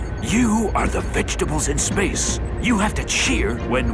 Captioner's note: whispering